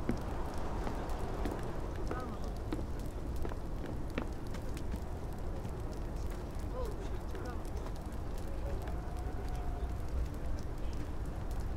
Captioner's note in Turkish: Uğultu Sesleri